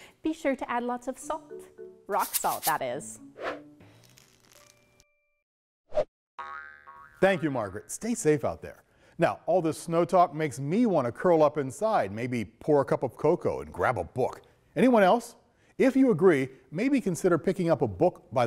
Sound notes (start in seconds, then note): 3.3 light music; 5.9 ball bounces; 5.9 logo whooshes